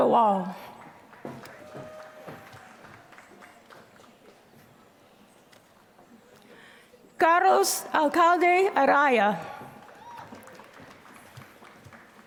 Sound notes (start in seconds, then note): 0.0 applause